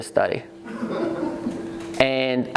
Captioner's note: laughing